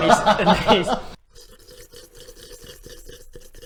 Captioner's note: slurp slurp slurp